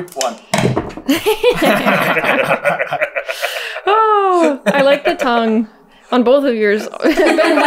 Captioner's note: laughter